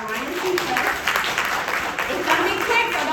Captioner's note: audience applauding